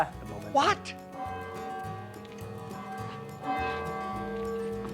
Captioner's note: bell ringing